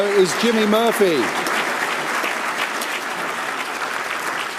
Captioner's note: applause